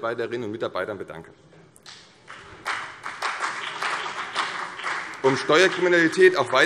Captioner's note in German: Beifall CDU und BÜNDNIS 90/DIE GRÜNEN